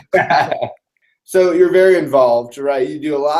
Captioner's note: laugh